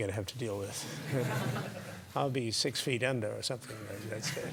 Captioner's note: laugh